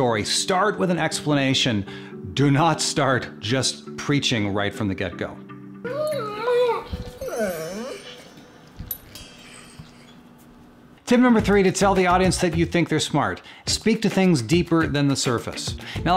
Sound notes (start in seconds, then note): 5.9 dog whining; 7.1 bells tinkling; 11.1 upbeat music